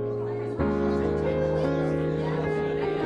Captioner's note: lively chatter